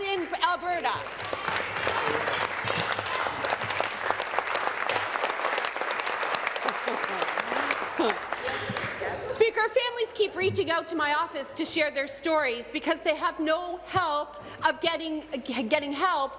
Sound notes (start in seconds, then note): 4.4 applause